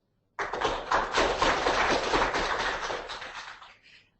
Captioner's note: audience clapping